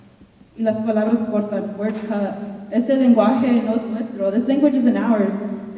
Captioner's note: speaking in Spanish